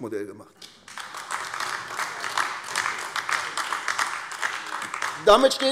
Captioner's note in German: Beifall AfD